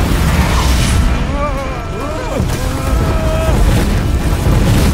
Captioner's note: all groan, yelp; tense music continues